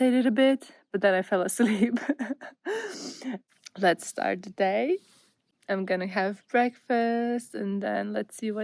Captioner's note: laughter